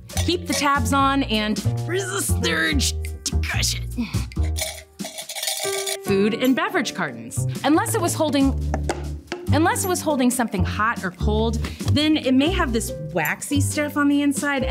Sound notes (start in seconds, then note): 4.1 gentle jazz music; 4.3 cans clinking